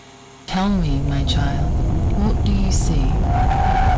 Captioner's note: Distorted Asha